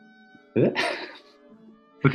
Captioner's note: chuckles